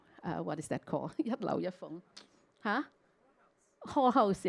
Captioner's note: Cantonese